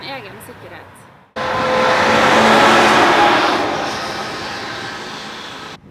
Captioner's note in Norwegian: vogntog brøler forbi i bakgrunnen